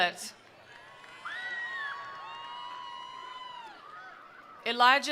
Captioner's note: attendees applauding; attendees cheering